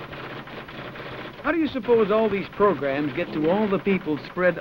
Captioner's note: typewriter clicks and clacks